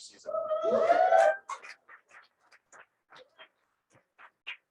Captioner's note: cheering and applause